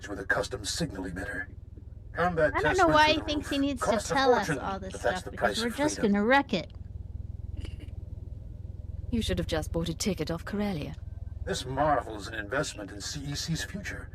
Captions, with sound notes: with a custom signal emitter. I don't know why he thinks he needs to tell us all this stuff because we're just gonna wreck it. [chuckles] You should have just bought a ticket off Corellia. This marvels in investment in CEC's future.